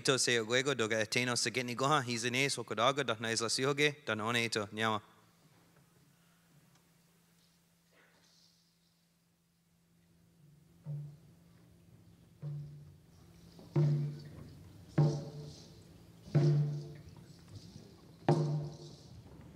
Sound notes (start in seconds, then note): 6.5 speaking Alternate Language; 12.6 speaking Indigenous Language; 17.7 drumming